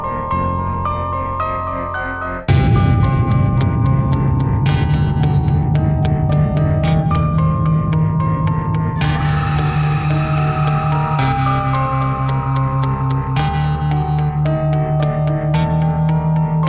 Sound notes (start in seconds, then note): 8.9 demonic groaning echoes